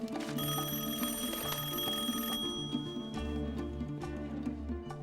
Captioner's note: rings